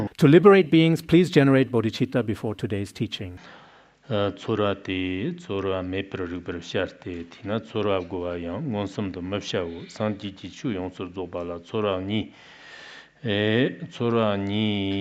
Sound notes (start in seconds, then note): 4.0 giving oral transmission in Tibetan